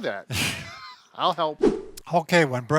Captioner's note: laughs